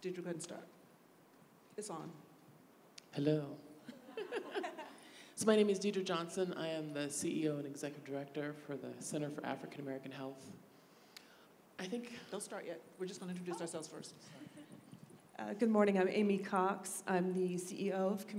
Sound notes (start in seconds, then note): 3.8 laughter